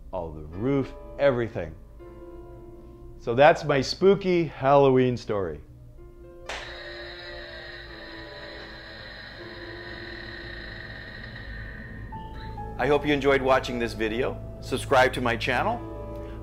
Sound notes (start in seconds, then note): 6.7 moaning